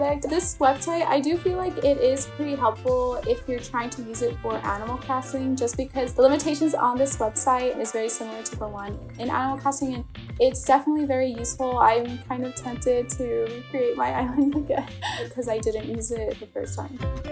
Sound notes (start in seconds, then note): 14.2 laughs